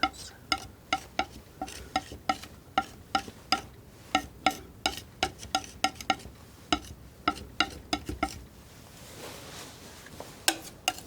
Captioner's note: tapping